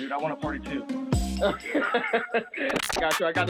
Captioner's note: laughs